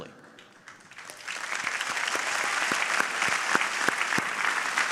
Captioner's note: audience applauding